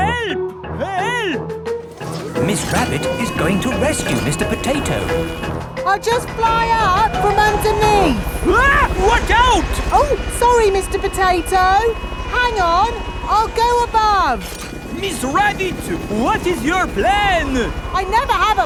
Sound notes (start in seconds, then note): 8.8 screams